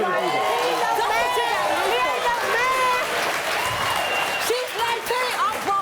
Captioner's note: cheering